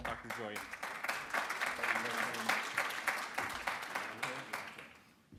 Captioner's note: audience clapping